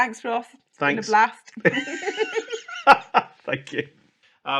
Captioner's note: laughs